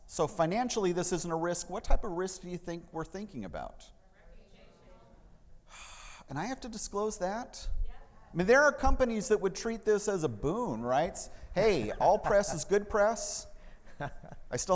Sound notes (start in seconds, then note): 6.1 sighs; 13.8 laughing